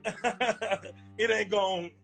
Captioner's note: laughs